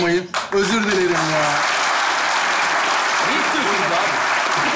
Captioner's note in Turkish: Alkış sesleri